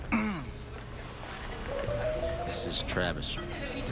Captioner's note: clears throat